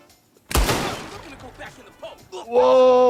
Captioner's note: gunshot cracks